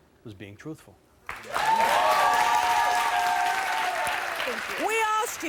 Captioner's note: audience applauds